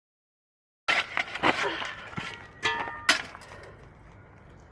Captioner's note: digging